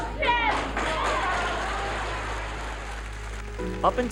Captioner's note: applauding